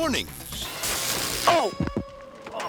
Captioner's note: electricity zapping